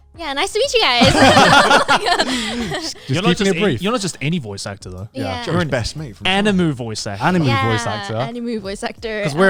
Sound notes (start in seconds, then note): 1.0 everyone laughing